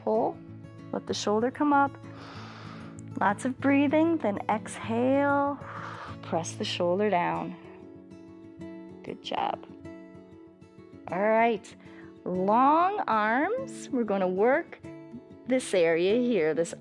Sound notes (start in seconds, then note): 2.1 inhales; 5.6 exhales